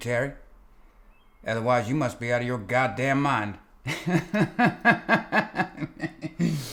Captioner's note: laughing